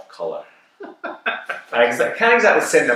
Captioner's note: chuckles